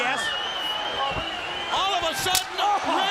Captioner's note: crowd cheering